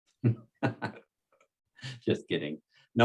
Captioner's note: participants laughs